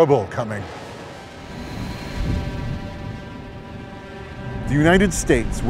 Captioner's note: soft tense music; thunder rumbling